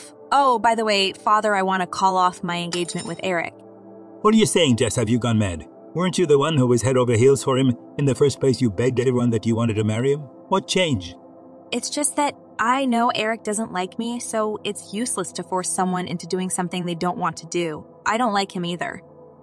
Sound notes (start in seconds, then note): 2.7 spoon droping sound